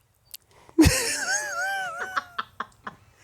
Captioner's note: chuckling